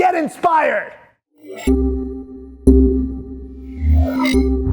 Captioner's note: electronic tones